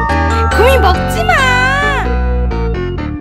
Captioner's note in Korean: 높은소리로